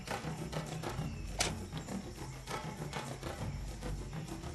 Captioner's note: sticks thud